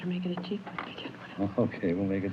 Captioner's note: whispers